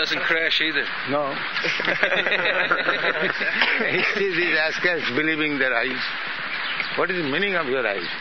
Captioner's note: laughter